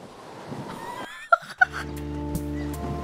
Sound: chuckles

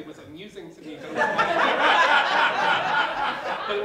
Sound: laughter

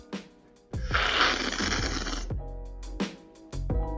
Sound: slurping sound

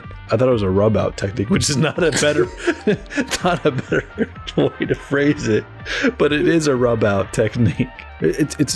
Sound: laughter

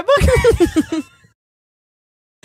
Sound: both laughing

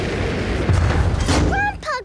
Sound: thuds

